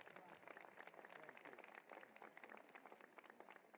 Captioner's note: cheering and applause